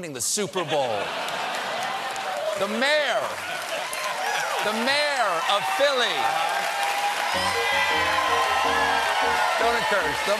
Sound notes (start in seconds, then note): 1.0 applause; 7.6 cheers and applause